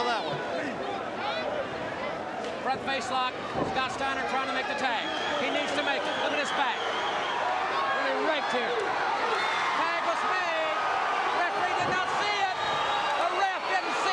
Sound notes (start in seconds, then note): 8.5 crowd cheering